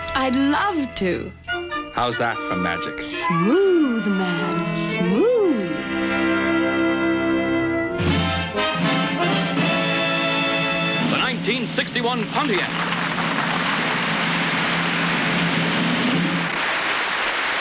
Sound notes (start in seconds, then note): 8.5 lively fanfare music; 11.1 crowd applauds